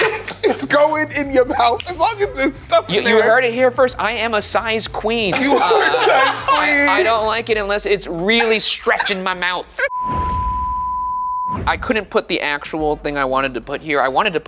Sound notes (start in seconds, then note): 0.0 laughs; 5.3 laughs